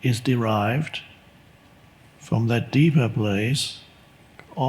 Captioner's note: none